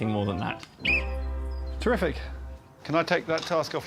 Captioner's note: blows whistle